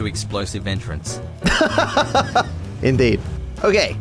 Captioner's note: laughs